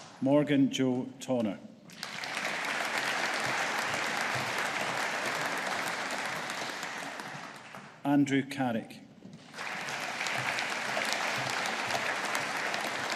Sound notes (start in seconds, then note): 1.9 audience applauding; 9.4 audience applauding